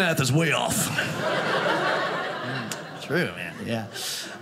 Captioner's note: audience laughing